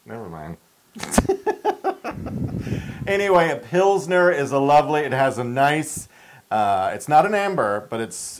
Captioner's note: laugh